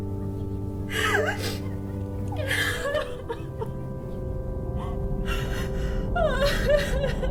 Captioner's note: cries